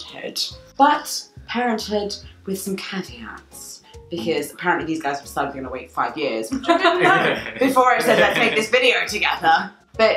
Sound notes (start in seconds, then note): 6.6 laughing